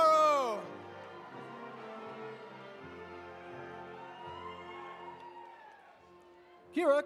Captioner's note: audience applauding; audience cheering